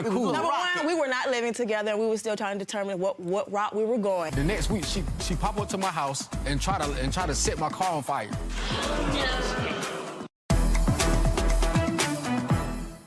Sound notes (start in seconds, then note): 8.5 audience gasping; 10.1 dramatic music